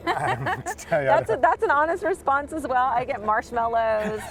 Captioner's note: laughter